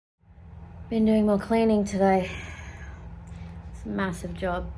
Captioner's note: sighs